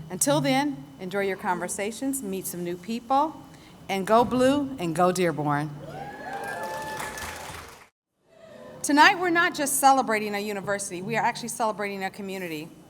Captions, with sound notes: Until then, enjoy your conversations, meet some new people, and Go Blue and Go Dearborn! [ Applause & Cheers ] Tonight, we're not just celebrating a university, we are actually celebrating a community.